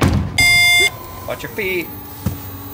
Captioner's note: car door bangs; car alarm beeps